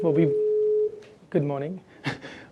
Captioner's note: shrill beep